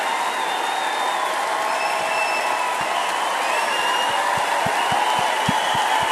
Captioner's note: crowd cheering and applause continues